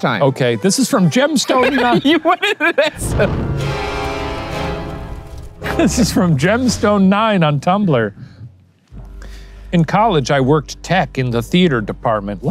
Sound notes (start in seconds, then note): 1.0 laughing; 3.0 intense music; 3.0 smoke whooshing